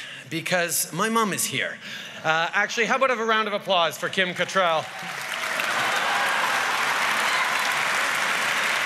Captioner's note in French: Applaudissements et rires